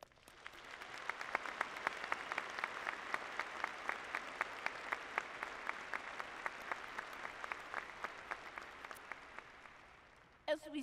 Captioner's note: applause